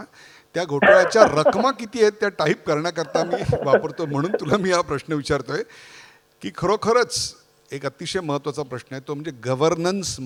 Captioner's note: laughter